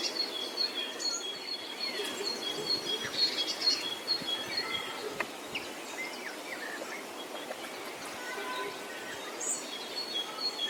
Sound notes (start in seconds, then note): 1.7 birds chirping